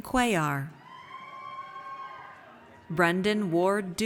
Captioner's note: audience cheers